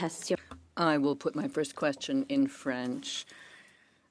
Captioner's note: speaking French